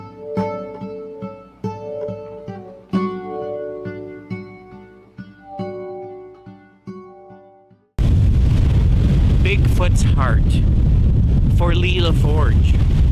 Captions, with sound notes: (wind blowing) - "'Bigfoot's Heart' for Leela Forge.